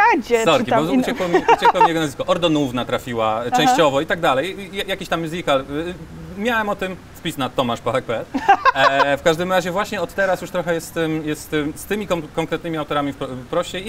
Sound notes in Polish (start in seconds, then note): 8.3 śmiech